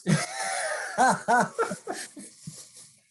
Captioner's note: laughs